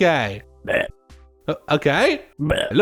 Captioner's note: burps; burps